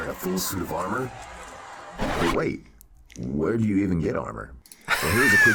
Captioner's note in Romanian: Aplauze